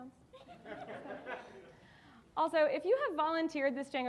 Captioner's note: audience laughing